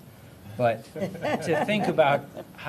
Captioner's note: laughter